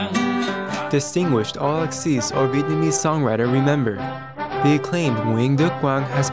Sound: Vietnamese

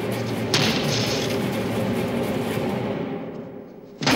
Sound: discordant music; thumping and crashing

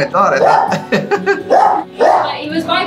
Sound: laughs

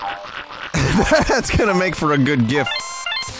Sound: laughing

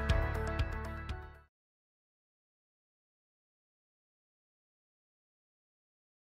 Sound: silence

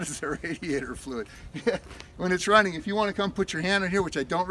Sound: chuckles

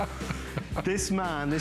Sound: laughter

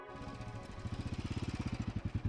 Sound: bike engine revving

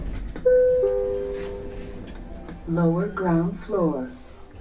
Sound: chime

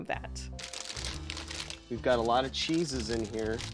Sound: jaunty music; packages rustle

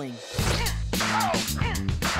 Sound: groaning

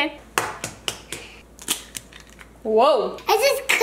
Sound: cracking egg

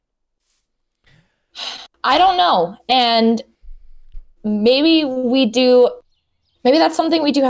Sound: sigh

